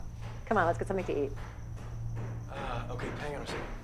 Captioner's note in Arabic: يطرق